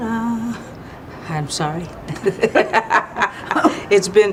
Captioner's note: laughing